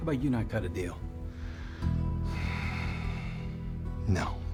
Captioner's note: sighs deeply; scottish accent